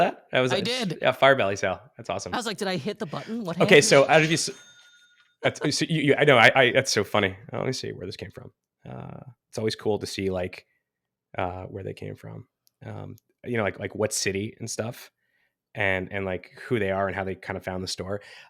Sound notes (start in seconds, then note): 4.4 cash register cha-ching; 5.4 laughs